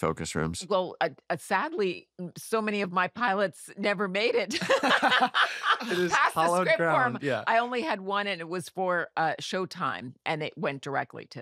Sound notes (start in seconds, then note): 4.4 laughter